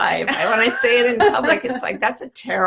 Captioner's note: laughs